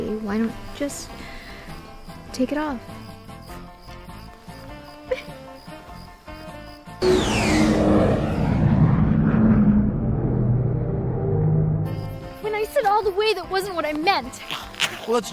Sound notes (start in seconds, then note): 5.1 giggling; 7.0 object soaring